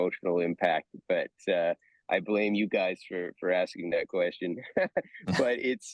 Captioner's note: laughs